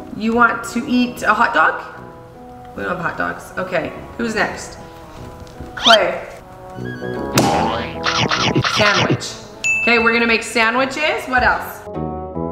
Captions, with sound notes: You want to eat a hot dog? We don't have hot dogs. Okay, who's next? Klai. Sandwich. (bell rings) 'Kay, we're gonna make sandwiches. What else?